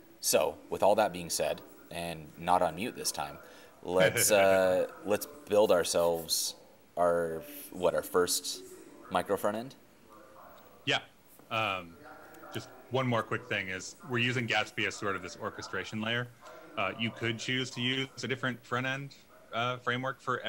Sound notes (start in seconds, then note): 4.0 laughing